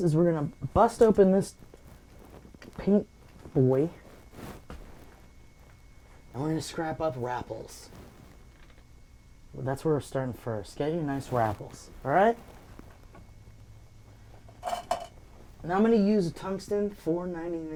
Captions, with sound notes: is we're gonna bust open this paint boy and we're gonna scrap up rapples. That's where we're starting first. Get your nice rapples, all right? (brush clanks) And now I'm gonna use a tungsten 499